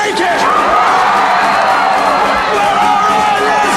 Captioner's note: shouting